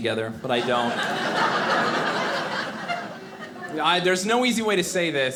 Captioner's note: audience laughing